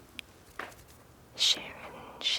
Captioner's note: fingers fluttering